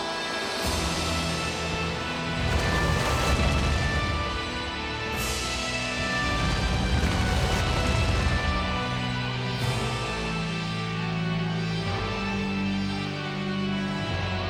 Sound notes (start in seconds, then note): 2.6 flames roaring